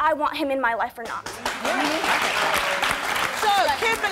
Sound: applause

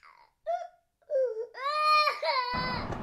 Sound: Max crying

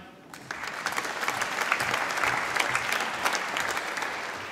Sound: applause

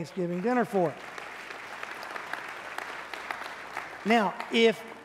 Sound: congregation clapping

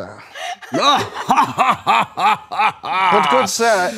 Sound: laughing

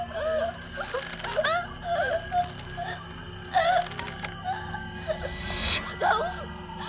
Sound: Allie chokes; rope stretches

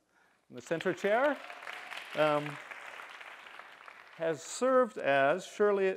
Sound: applause

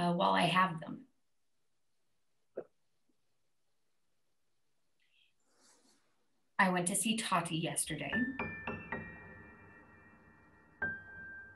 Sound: door knocking

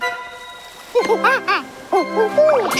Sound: chattering

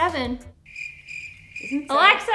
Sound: crickets

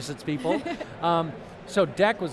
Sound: laughs

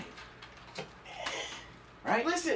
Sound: sigh of disgust

